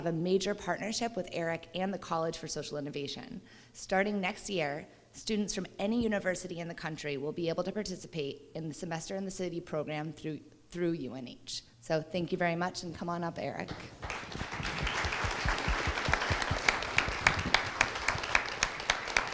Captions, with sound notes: a major partnership with Eric and the College for Social Innovation. Starting next year, students from any university in the country will be able to participate in the Semester in the City program through UNH. So, thank you very much. And come on up, Eric. [APPLAUSE]